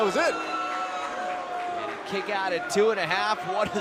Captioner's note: cheers & boos